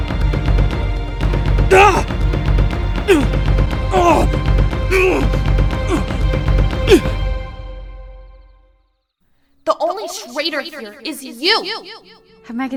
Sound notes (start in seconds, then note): 1.3 Jackson yells, followed by grunts of pain